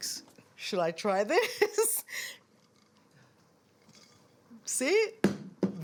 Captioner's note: laughs